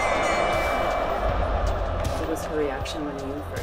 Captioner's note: bell dings; crowd cheers